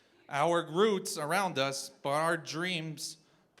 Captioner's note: none